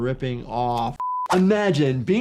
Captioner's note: video beeps